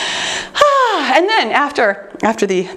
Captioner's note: sighs